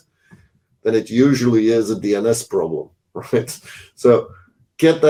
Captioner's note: chuckles